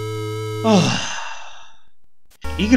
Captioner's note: big sigh